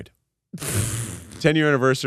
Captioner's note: laughs